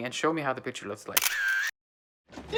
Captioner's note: shutter clicking